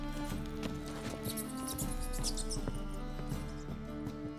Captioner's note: rats squeaking